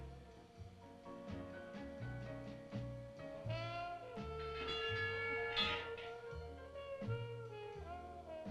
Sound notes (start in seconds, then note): 4.6 chimes clanging